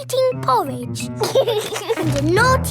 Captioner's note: george giggles